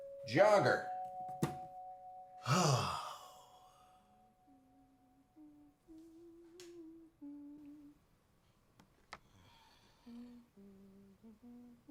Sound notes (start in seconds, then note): 0.8 ben sighs; 4.2 wendy hums